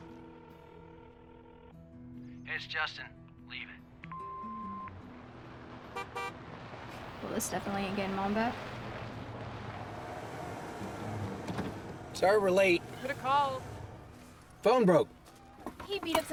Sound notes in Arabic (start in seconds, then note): 0.1 رنين الهاتف; 4.1 صفير; 5.9 بوق بوق